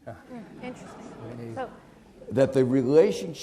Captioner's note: audience chattering